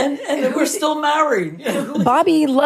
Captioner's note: laughs; both laugh